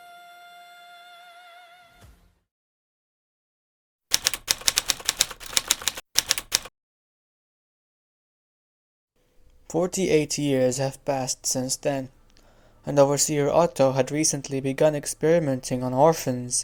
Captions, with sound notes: [Typewriter sounds] 48 years have passed since then, and Overseer Otto had recently begun experimenting on orphans